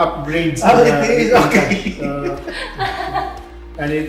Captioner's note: laughing